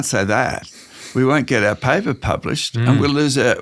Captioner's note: laughs